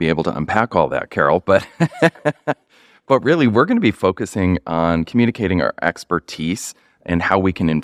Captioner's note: laughter